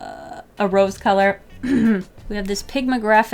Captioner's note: clears throat